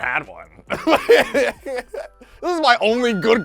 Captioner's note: laughs